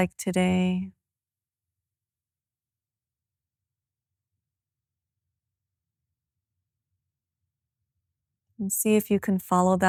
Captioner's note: silence